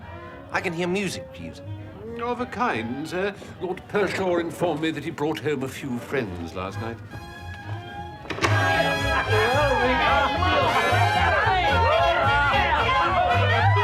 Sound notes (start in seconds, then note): 7.0 drunken carousing